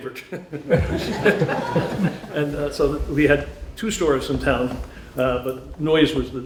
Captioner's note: laughter